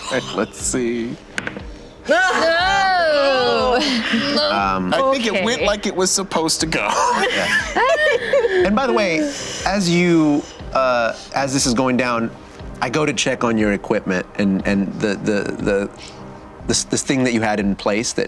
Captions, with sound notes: All right, let's see. (group screams) I think it went like it was supposed to go. (laughter) And by the way, as this is going down, I go to check on your equipment and this thing that you had in place